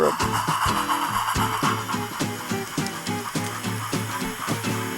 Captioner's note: chugging intensifies